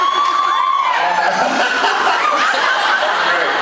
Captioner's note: laughs, cheers; laughs